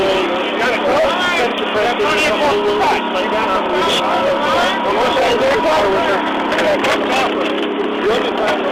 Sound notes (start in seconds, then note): 1.3 chainsaw